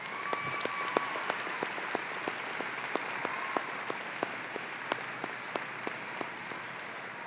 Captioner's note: applause